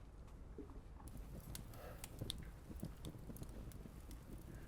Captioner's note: crackling flames